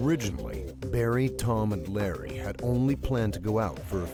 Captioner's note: voiceover